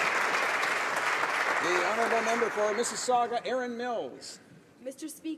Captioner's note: applause